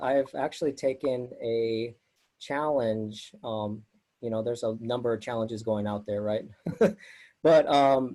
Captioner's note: laughs